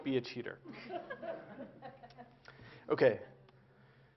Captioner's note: Laughter; 笑聲